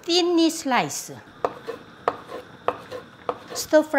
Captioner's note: knife chopping